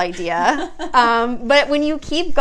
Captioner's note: laughs